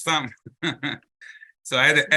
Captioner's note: laughs